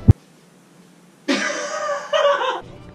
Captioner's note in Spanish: risas